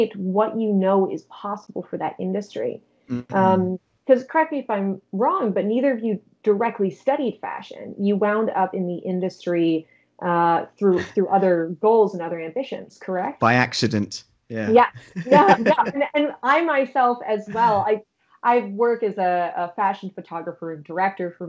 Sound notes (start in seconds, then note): 14.5 chuckling